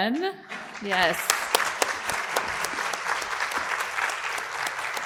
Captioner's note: audience applauding